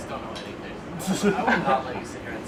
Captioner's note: laughing